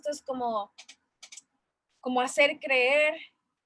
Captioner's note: pause